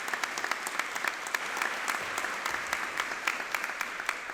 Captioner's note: audience applauding